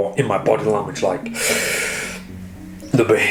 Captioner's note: sighs